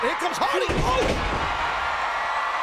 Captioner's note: bodies thud; audience cheering